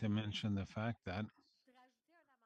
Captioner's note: speaking French